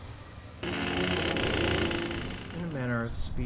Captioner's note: door creaks